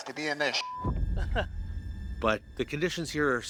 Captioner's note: chuckles